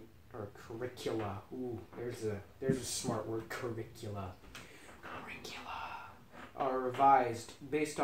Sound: uncomfortable whispering

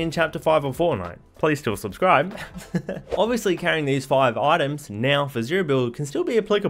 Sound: laughs

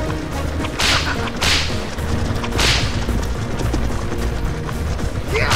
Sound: whinnying; whip cracking repeatedly

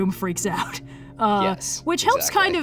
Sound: laughs

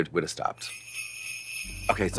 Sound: sleigh bells jingling

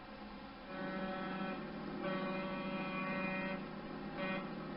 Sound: brief car honking and busy street noises

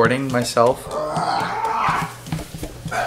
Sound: groans then screams

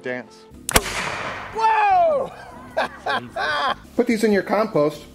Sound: gun fires

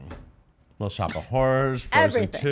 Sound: laughs

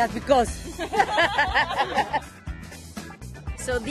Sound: laughter

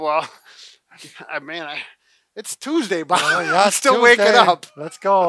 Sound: laughs

